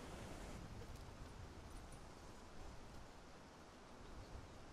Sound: wind blowing

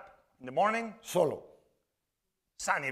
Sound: spanish

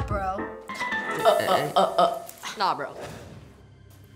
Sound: mocking

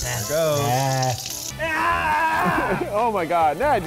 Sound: screaming

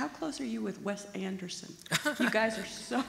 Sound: laughs

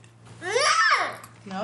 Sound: child squealing

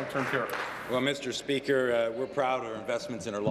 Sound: applause

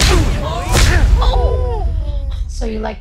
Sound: onlookers exclaiming

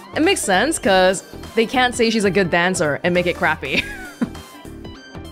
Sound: chuckles

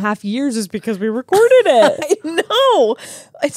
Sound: laughs

